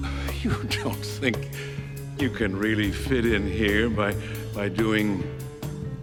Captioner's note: chuckling